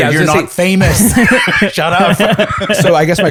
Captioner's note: laughter